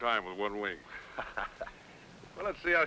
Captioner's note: men laughing